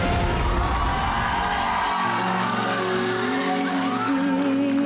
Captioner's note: audience cheering